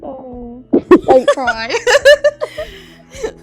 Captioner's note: laughs